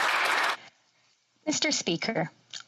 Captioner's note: applause